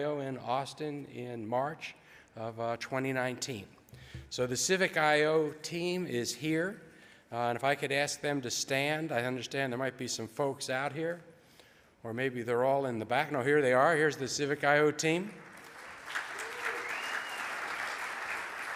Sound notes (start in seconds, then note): 15.4 audience applauds